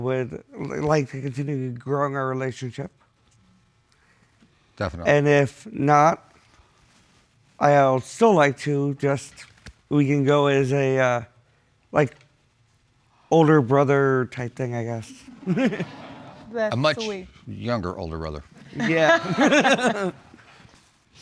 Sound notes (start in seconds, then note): 15.3 audience chuckling; 15.3 chuckles; 18.6 all chuckle